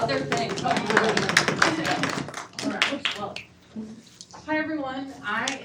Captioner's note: attendees clap